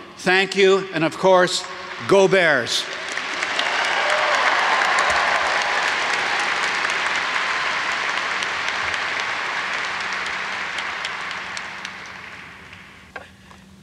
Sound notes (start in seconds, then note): 3.0 audience applauds